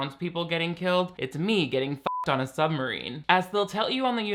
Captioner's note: beep